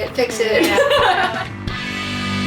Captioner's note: laughing loudly; upbeat music